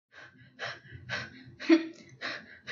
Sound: panting

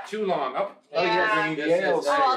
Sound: everyone chatters

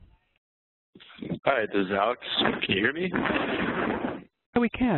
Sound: voiceover

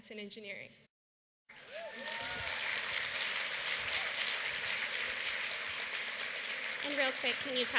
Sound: applause

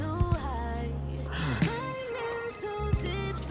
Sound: Jake sighing

